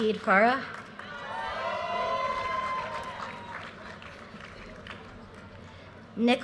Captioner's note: audience cheers and applause